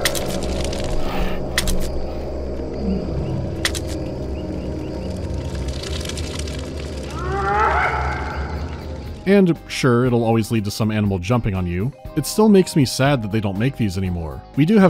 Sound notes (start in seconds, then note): 0.0 foreboding ambient hum; 7.1 animal call repeats